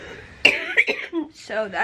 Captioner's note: coughing